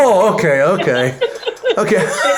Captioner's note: laughter